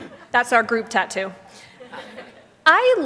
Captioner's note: laughter; laughter